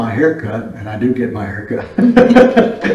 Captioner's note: laughs